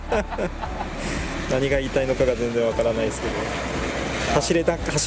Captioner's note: laughs